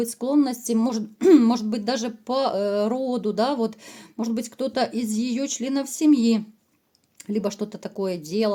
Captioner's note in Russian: откашливается